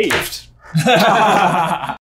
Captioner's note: laughter